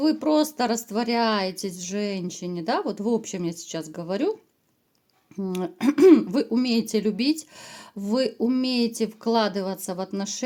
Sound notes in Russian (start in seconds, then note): 5.8 откашливается